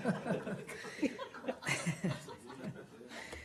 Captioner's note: laughter